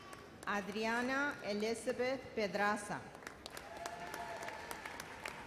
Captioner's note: audience applauds